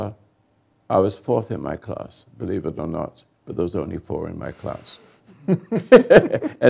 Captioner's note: laughter